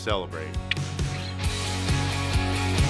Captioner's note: clicks